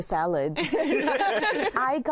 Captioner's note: all laugh